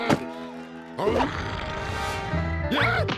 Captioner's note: rabbits growling